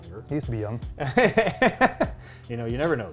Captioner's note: chuckles